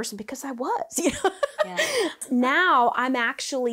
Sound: laughs

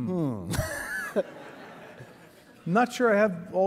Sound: laughing

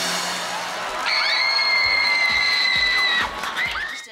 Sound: screaming

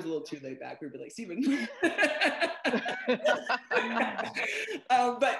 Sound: laughter

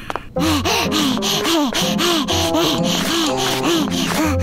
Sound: Wilk grunting

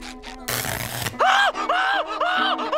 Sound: buzzing; screaming

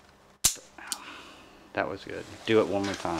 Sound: gun clicking

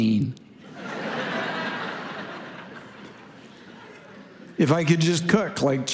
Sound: congregation laughing

